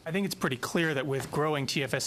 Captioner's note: speaking French